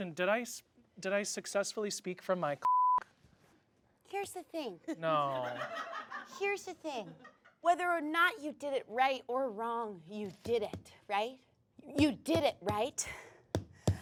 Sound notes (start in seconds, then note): 2.6 beep; 5.8 audience laughs